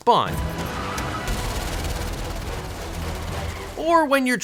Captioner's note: guns shooting